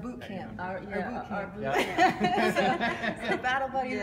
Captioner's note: laughter